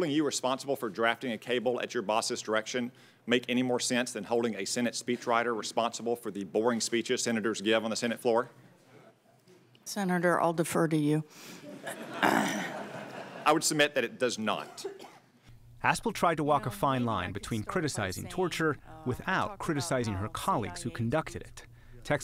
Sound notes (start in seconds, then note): 11.6 laughter